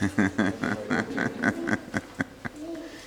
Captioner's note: laughing